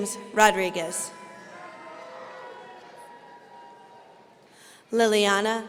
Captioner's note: audience cheering